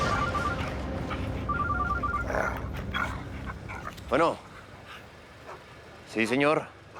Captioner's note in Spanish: suena el celular; gruñidos